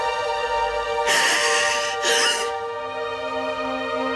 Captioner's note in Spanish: Sollozos